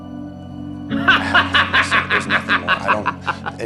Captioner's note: laughs